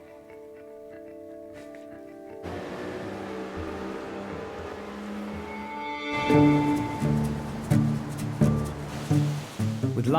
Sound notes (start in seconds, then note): 1.0 gentle music continues; 2.8 boat purrs; 6.1 gentle upbeat music